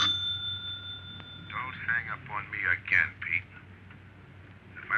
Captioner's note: on phone